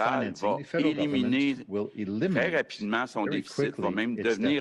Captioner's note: speaks French